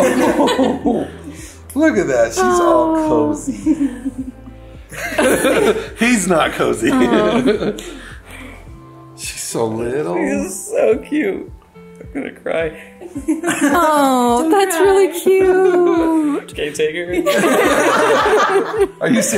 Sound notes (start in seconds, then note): 0.0 everyone laughs; 5.0 everyone laughs; 13.0 giggles; 17.2 everyone laughs